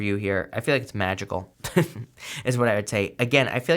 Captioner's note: chuckles